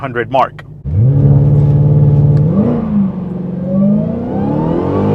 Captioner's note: engine Revving